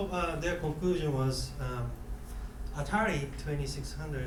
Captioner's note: none